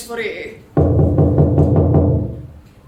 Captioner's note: knocking sound